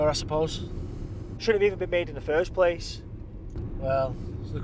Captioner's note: none